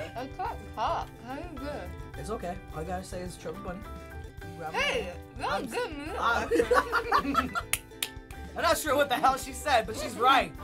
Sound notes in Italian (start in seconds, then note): 5.3 Borbottando; 6.2 risata